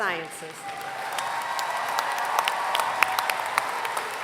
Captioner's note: applause